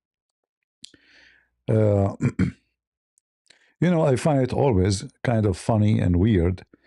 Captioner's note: berdehem